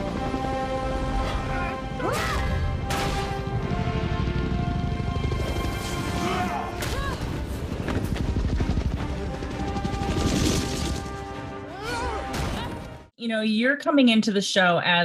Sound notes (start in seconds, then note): 0.0 patriotic instrumental music; 1.2 people grunting; 7.7 tense instrumental music; 10.3 helicopter whirring; 11.6 people grunting; 12.0 tense instrumental music